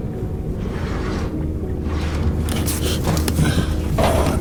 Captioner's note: metal scraping